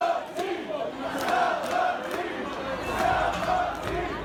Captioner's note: crowd chanting